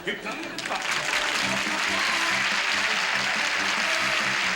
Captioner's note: applause; big band music